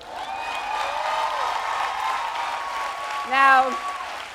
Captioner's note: audience cheering